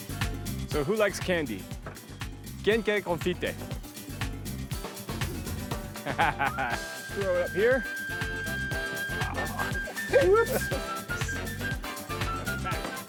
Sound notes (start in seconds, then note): 2.1 speaking Spanish; 5.8 laughs